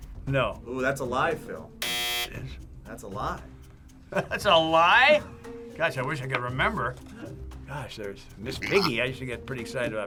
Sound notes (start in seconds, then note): 1.8 buzzer